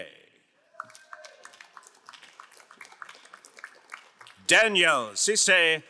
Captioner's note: crowd applauding